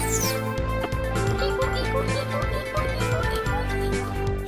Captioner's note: squeaking sounds; screwdriver whirring